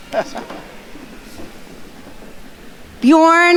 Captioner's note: faculty member chuckles